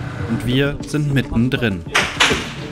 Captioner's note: shots